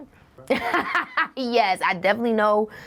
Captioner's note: laughing